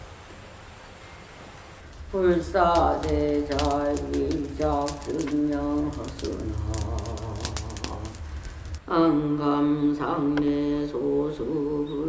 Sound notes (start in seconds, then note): 2.2 chanting; 3.2 fire crackling